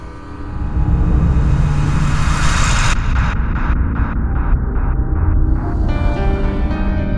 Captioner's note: suspenseful music; mysterious echo